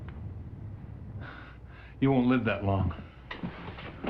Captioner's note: scoffs